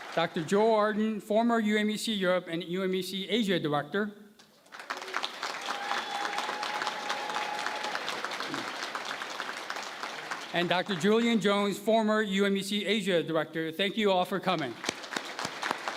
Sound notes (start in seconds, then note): 4.5 applause; 14.5 applause